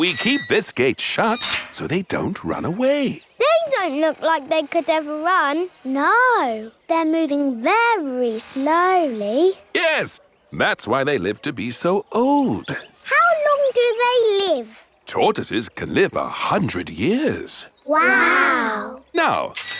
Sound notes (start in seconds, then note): none